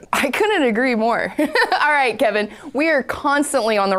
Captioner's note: laughing